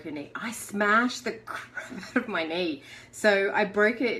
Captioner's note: chuckles